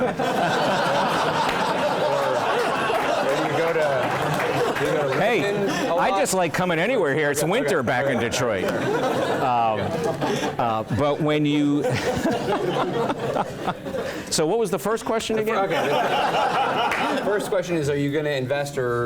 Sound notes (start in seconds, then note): 0.0 laugh; 7.5 laugh; 15.6 laugh